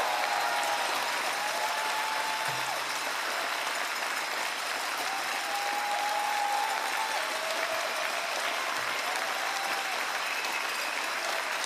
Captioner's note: cheering and Applause